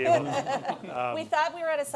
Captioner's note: laughter